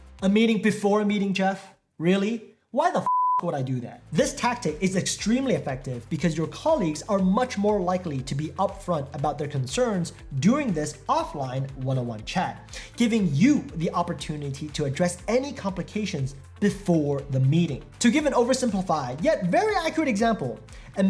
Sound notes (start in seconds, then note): 3.0 beep